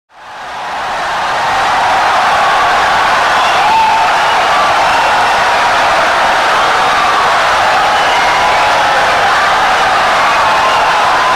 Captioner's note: wild applause and cheering for 17 seconds